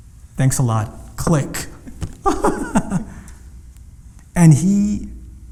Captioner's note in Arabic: صوت إغلاق سماعة الهاتف